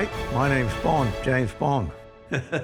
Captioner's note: in australian accent